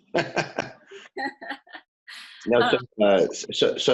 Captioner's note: laughing